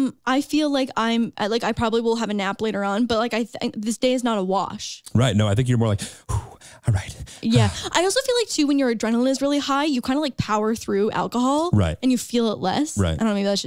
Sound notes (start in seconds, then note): 5.9 sighs